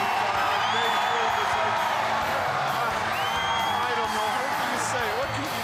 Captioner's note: crowd cheering